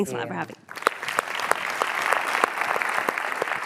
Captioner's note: applauding